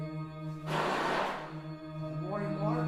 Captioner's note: whooshing sound playing